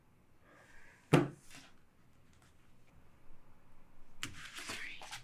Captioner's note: hand thudding; papers rustling